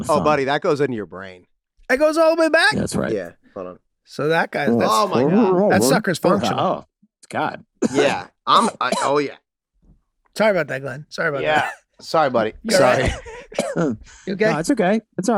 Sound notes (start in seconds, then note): 8.8 Glenn coughing chokingly; 12.6 Glenn coughing chokingly